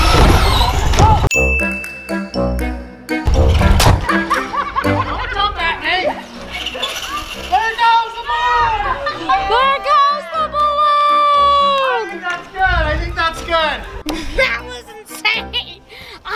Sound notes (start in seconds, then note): 1.3 bell dings; 1.3 fun music; 4.0 laughs; 13.6 laughs